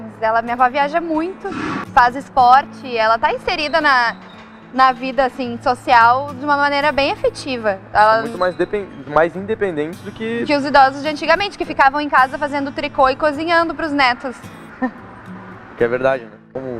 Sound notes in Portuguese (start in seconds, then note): 14.8 risos